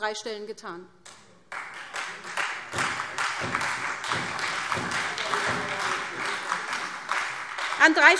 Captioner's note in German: Beifall SPD und Freie Demokraten